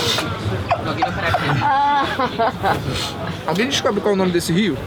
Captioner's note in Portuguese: risadas